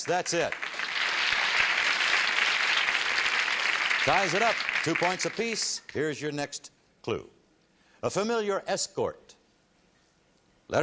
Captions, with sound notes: Yes, that's it. [applause] Ties it up, 2 points apiece. Here's your next clue. A familiar escort.